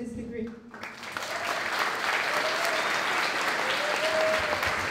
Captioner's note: applause